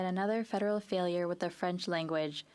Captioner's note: speaking French